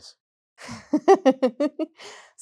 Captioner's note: laughter